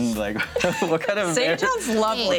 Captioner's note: laughter drowns out